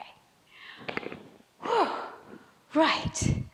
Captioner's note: sighs